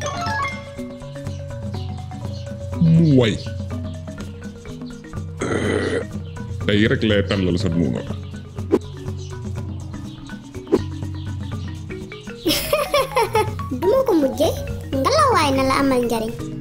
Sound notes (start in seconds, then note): 5.3 belching; 12.4 laugh